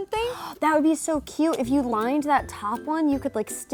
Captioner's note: gasping